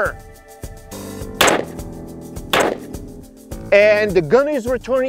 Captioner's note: pistol firing